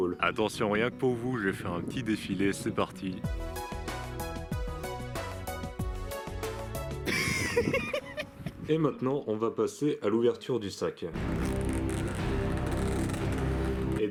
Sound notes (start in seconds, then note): 7.1 laughs; 11.2 scary music